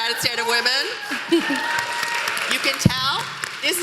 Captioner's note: applause